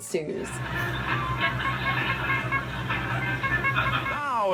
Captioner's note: honks in distress